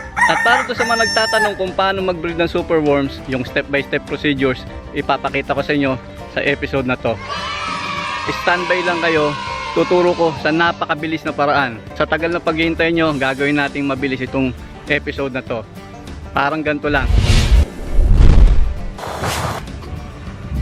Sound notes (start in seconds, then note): 16.9 whoooosh